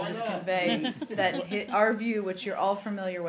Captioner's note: laughter